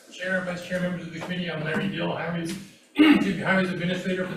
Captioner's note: clears throat